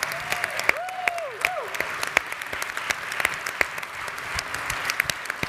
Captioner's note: audience cheers; audience continues applauding